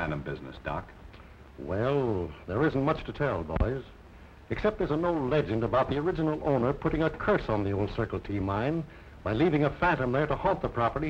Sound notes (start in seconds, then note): none